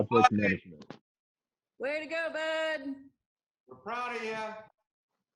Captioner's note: cheers